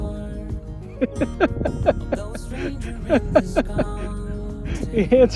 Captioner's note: laughs